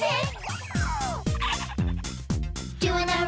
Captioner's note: laughs